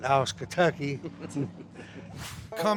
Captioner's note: both laugh